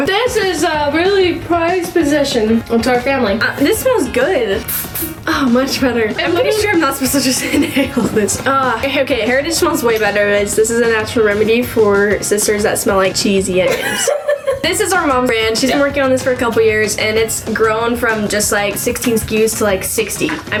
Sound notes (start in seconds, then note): 4.5 bottle spraying; 13.6 laughing